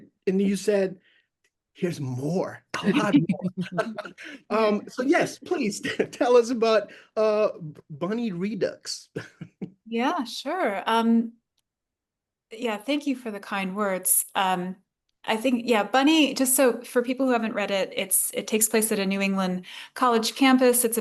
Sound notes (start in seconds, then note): 2.8 laughing; 9.2 laughs